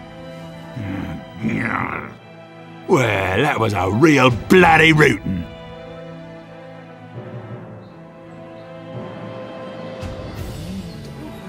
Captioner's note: groans